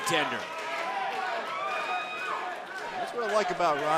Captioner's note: crowd cheering